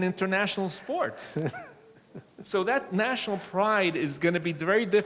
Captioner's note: laughs